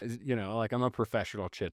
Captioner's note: laughing